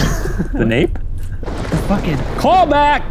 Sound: thunder rumbling

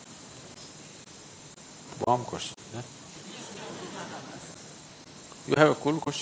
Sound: laughter

